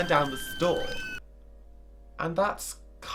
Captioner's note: screaming